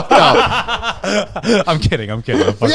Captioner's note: all laughing